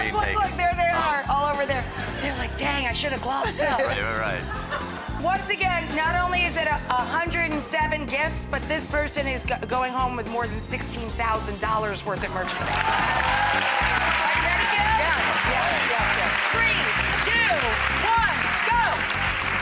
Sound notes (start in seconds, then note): 12.8 audience applauding